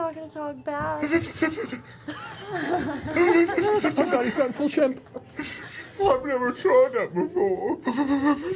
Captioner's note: shaky breathing